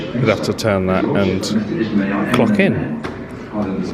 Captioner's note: none